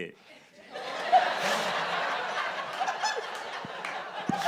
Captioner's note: audience laughs